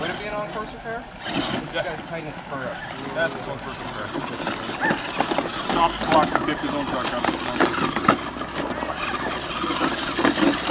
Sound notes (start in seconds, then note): 0.1 engine whining; 4.8 gravel shifting